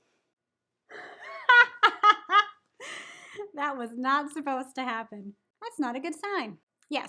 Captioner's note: laughs